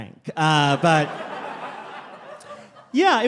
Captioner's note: crowd laughing